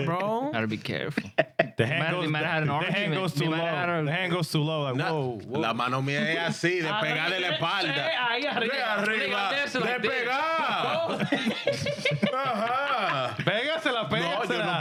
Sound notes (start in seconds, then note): 3.7 laughing; 3.7 speaking In Spanish